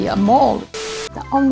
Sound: electronic instrumental music; TV static

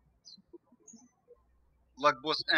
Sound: birds chirping

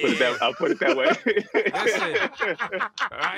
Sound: laughter

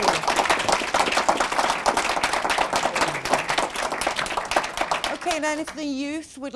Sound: applause

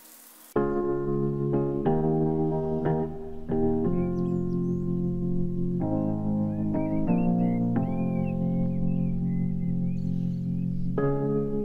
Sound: birdsong

